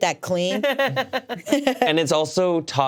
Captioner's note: laugh